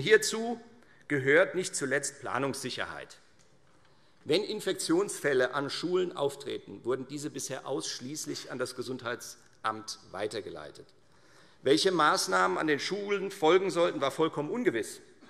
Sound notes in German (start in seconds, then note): none